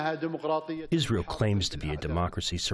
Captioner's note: through translator